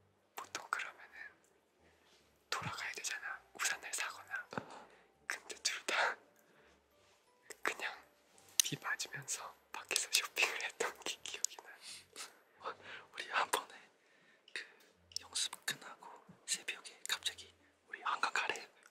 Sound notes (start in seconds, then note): none